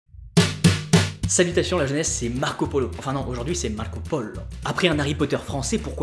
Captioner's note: Italian accent